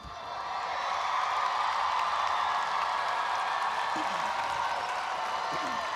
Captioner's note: audience applauds and cheers